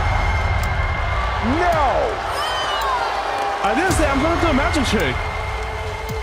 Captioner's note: cheering